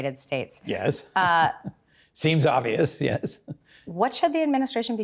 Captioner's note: laughs